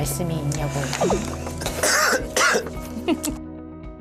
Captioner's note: coughing